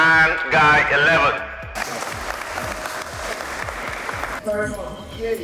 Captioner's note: applause